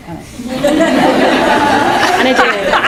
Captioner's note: laughing